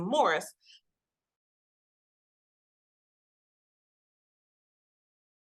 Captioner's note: audio cuts out